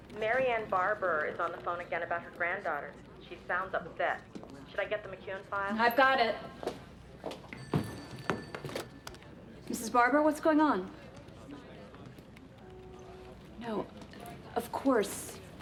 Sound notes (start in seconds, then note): 7.4 phone rings